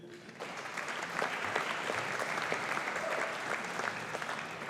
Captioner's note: audience applauding